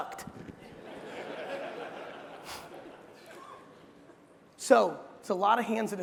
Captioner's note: crowd laughing